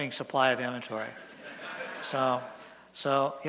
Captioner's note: laughter from audience